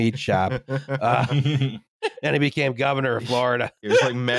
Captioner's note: laughter